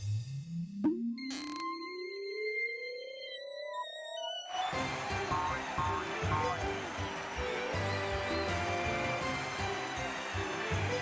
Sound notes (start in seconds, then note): 4.4 audience cheering